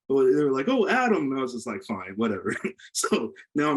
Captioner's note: laughs